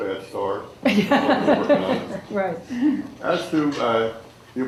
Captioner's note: laughter drowns out dialog